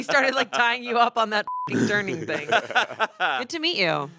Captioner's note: beep